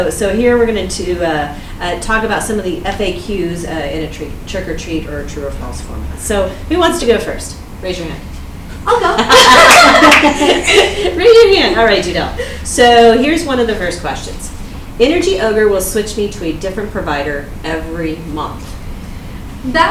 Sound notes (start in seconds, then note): 8.8 everyone laughs